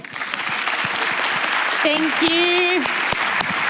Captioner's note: applause